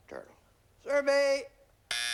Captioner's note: buzzer